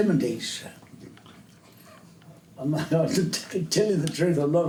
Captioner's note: laughs